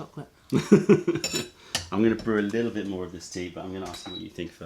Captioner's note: laughter